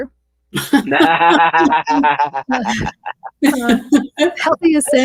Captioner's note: participants laughing